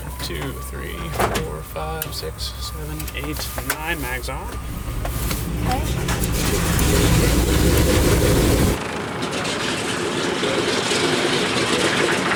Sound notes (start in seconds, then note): 7.7 engines starting up